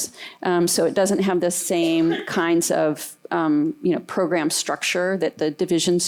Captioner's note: cough